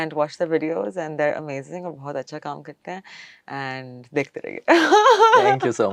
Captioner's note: laughs